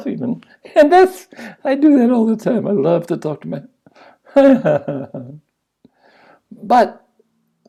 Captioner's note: laughs